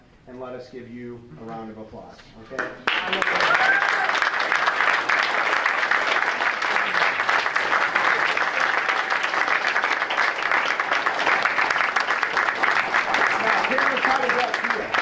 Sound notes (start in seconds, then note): 2.7 clapping